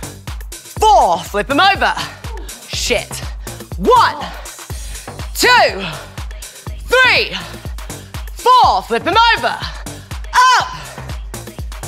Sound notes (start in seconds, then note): 4.1 moaning